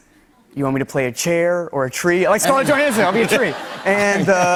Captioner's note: laughter